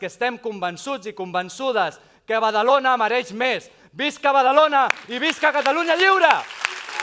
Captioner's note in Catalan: aplaudiments